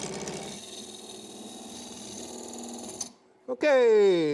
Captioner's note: wood rasping